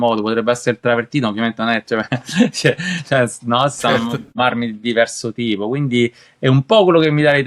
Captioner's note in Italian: risate